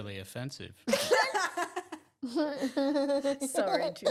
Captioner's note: laughing